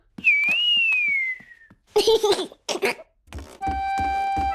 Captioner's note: whistling and giggling